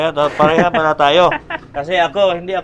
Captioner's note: laughs